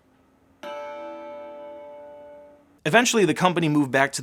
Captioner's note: computer startup sound